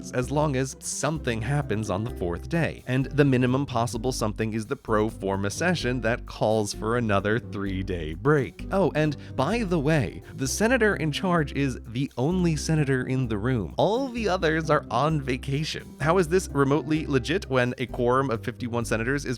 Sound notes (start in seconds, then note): 13.8 gleefully